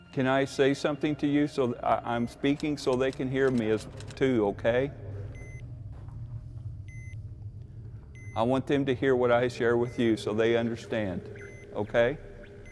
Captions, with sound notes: - Can I say something to you? I'm speaking so they can hear me too, okay? (Ovilus beeping) I want them to hear what I share with you, so they understand, okay?